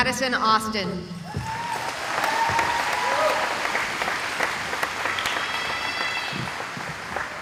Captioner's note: cheering